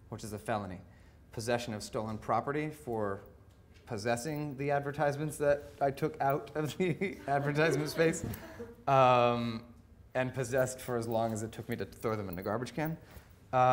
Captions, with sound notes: which is a felony. Possession of stolen property for possessing the advertisements that I took out of the (laughing) advertisement space. (audience laughing) And possessed for as long as it took me to throw them into the garbage can.